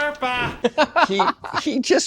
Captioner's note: laughing